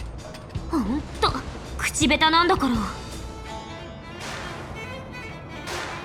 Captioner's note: sigh